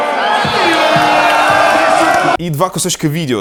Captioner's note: vuvuzelas, crowd shouting